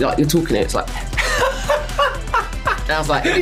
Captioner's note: laughs